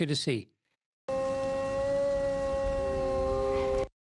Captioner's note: wolf howl